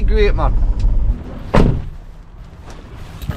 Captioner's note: car door slamming